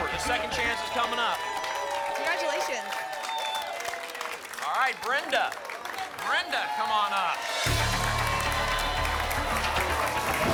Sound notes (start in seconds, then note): 3.3 applause and cheering